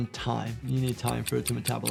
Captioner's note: clock ticking